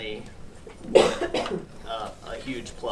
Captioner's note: coughing